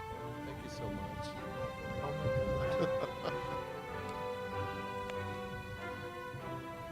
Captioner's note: chuckles